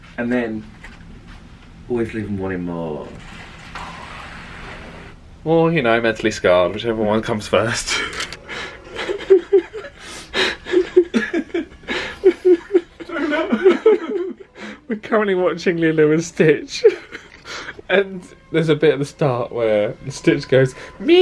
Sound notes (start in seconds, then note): 8.4 both laughing